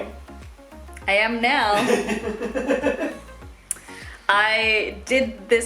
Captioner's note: laughs